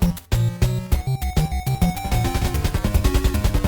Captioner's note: game audio